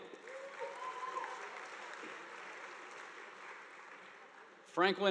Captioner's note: audience applauding